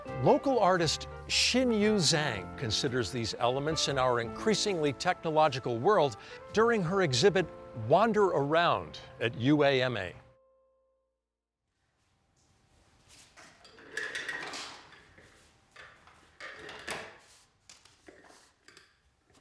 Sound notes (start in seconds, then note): 13.2 chair clatters